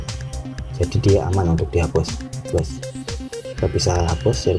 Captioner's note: click